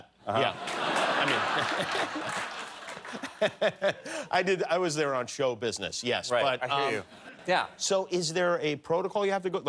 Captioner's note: laughter